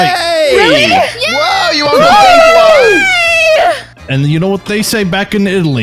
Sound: all cheering

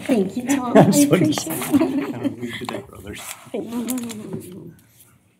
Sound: indistinct chatter

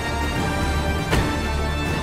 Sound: car door closes

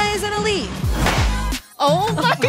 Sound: confetti pops; light dance music

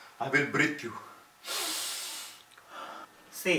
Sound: takes a deep breathe

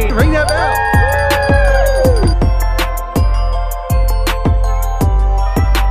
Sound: everyone cheering, bells ringing

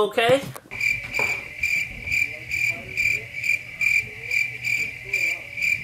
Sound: cricket Sounds

